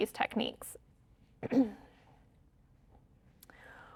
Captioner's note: clears throat